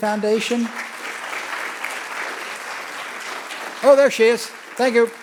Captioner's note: audience clapping